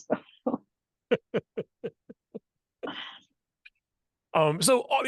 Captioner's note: laughter